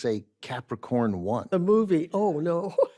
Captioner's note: laughs